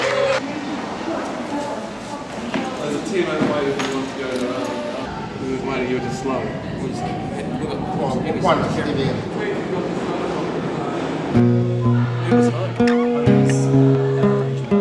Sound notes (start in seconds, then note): 7.8 indistinct chatter continues